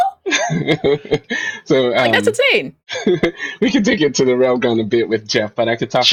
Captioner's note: laughs